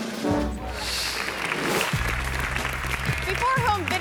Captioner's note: graphics whooshing; hands clapping